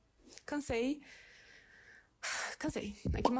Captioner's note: sighs